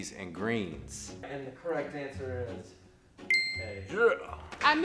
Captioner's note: ding